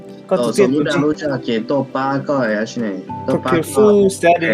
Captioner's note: speaker uses foreign language